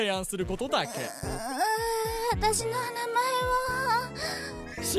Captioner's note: groaning